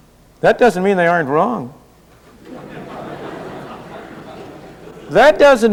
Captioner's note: laughter